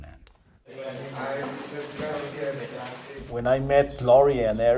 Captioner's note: speaking Spanish